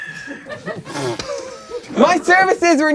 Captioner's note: crowd laughing